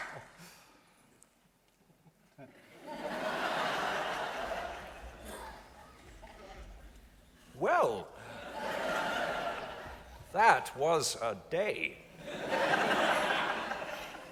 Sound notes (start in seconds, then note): 2.5 audience laughing; 8.1 audience laughs; 12.2 audience laughs